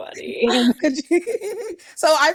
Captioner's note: laughs